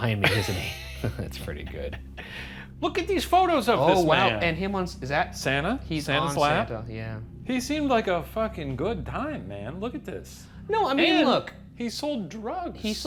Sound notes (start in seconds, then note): 0.2 both laughing; 0.2 laughs